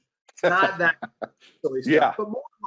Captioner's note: laughs